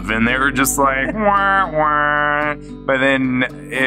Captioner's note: makes uh-oh sound effect